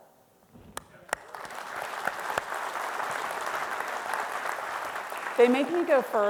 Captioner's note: host and audience clapping